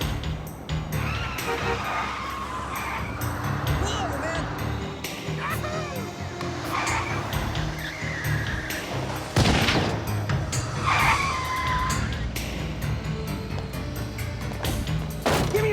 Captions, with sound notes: Whoa, man. [CAR SCREECHING] [GUNSHOT] Give me your money.